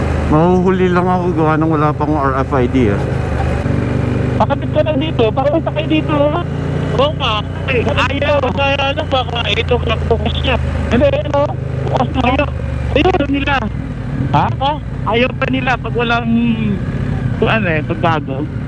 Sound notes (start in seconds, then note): 7.0 distorted audio